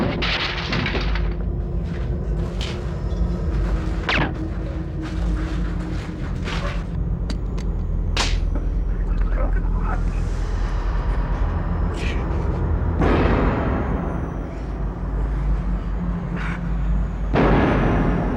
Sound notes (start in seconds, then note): 3.6 gunshot